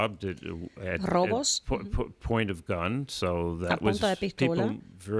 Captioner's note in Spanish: Hablando ingl\s